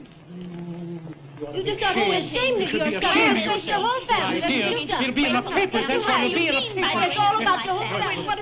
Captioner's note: angry clamor